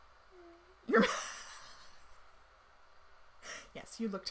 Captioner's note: laughing